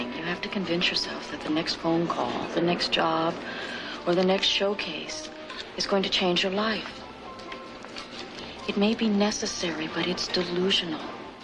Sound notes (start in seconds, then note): none